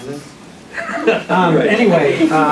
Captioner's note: laughter